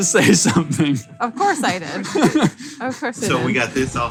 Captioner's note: laughs